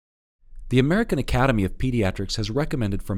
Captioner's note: voiceover